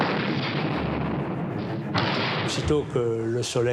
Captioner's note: explosion booms